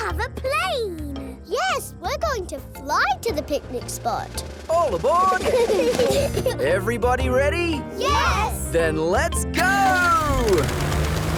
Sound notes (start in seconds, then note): 5.2 children giggle